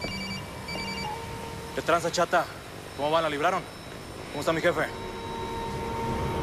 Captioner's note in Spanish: Suena el celular